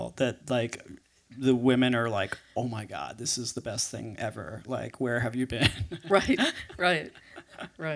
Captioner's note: laughs